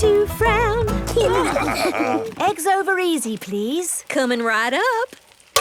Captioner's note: laughing